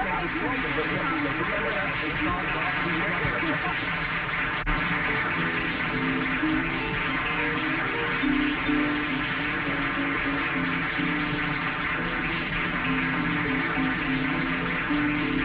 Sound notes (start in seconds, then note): 2.6 arguing; 2.6 audience applauding; 8.7 pleasant music